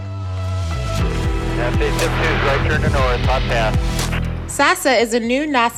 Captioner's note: radio chatter